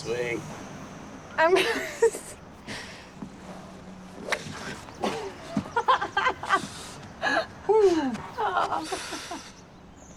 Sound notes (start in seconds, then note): 1.6 Lynn laughs